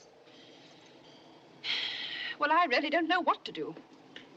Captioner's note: sighs